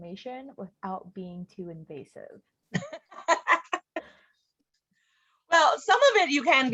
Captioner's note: laughing